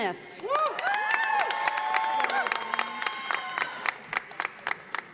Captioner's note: audience applauding